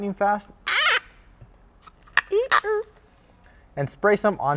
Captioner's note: plastic squeaking